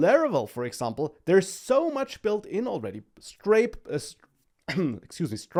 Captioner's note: clears throat